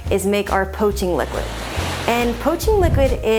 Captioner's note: waves murmuring